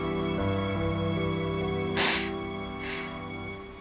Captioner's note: sniffling